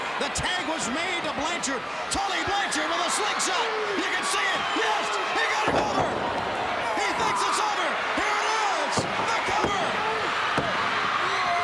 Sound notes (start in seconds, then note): 6.3 crowd cheering; 10.2 crowd cheering